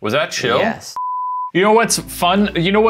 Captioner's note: beeping